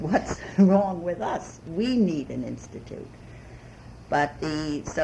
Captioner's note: laughs